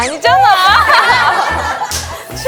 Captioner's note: haha!